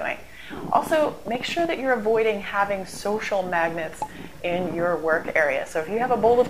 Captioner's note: pop